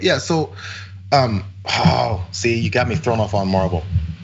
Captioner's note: laugh